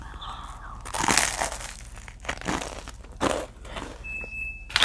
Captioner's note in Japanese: カリカリ